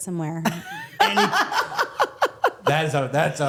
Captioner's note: Stephanie laughs